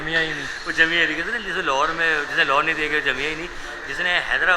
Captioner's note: laugh